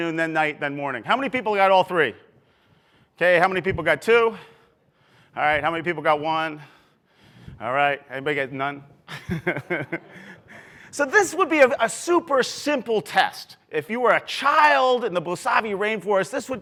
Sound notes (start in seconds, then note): 9.1 laughs